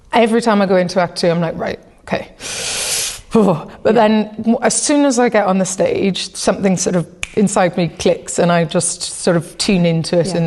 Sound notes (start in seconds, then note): 2.4 deep breath; 7.1 clicks fingers